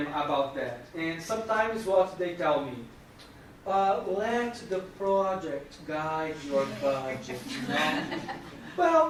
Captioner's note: laughing